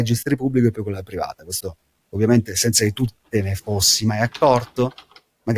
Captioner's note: speaking in Italian